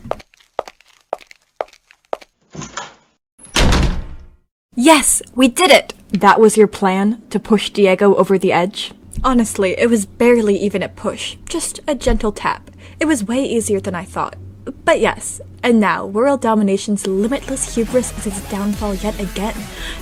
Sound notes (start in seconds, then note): 0.0 footsteps; 3.4 door opening and slamming closed